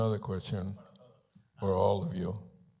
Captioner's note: Spanish language